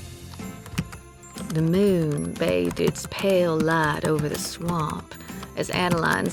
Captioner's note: typing resumes